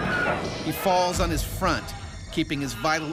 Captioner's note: voiceover